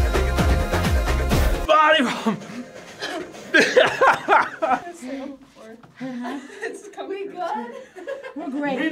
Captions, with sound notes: - Five! (laughs) - I'm gonna sit on the floor. - Uh-huh. - Are we good? (laughs) - We're great.